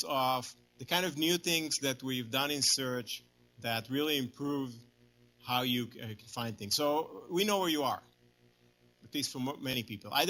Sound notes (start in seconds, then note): none